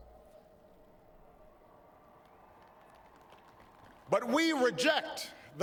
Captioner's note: applause